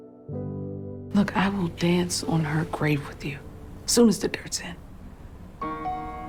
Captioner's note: voiceover